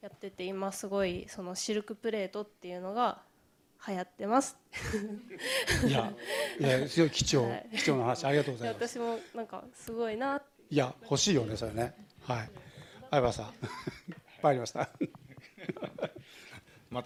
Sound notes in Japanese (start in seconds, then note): 4.8 笑い; 5.3 息をのむ音